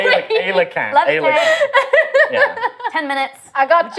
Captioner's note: laughing